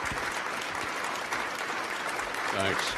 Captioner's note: applause